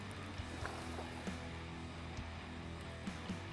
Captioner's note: guitar music; splashing